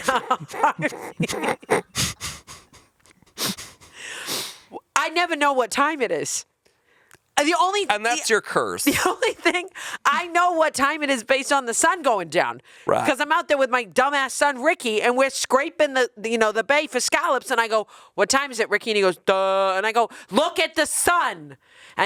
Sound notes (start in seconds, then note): 0.0 chuckling; 9.1 chuckling